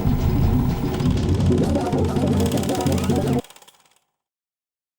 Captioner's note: film reel running